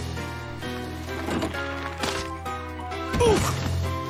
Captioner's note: creak, snapping; thump